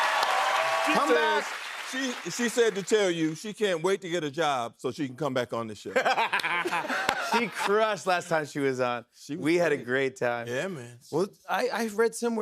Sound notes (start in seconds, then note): 0.0 cheers and applause; 5.9 laughter